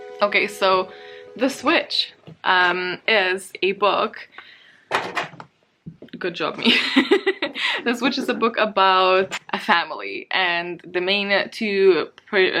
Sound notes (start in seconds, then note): 6.6 laughs